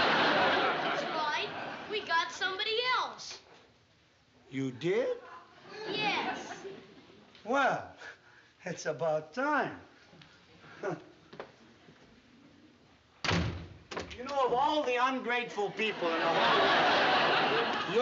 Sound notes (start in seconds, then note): 13.2 door slam